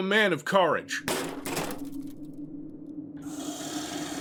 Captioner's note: sinister knocking on the door; ominous growling